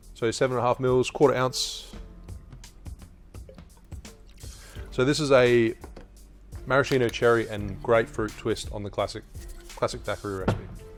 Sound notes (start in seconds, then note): 3.4 liqueur pours